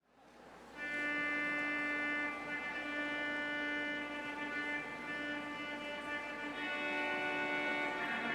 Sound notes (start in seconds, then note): 0.8 soft music; 1.0 audience chatters